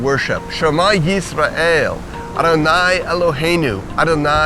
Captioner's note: reciting the shama in hebrew